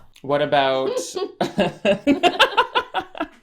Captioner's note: laughs